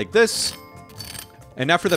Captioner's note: fork scraping on dry bun